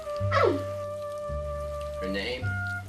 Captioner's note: scoffs